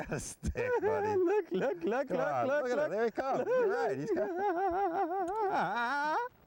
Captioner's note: laghter; laughter